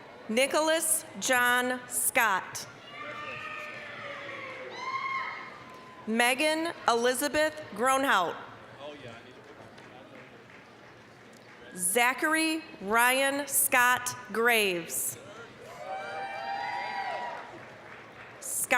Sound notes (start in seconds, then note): 0.0 applause, cheering; 3.0 applause, cheering; 9.2 applause; 15.6 applause, cheering